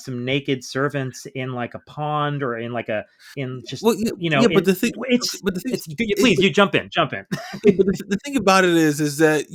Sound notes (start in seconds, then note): 7.3 laughs